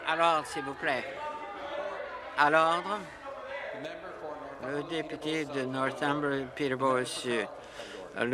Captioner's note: conversation din